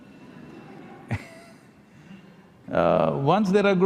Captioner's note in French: rires